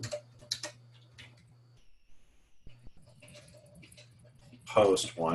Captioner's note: typing Sounds